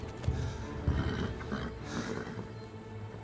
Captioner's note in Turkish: At kişneme sesi